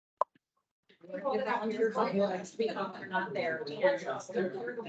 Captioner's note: indistinct chatter